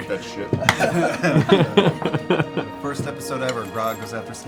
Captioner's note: laughter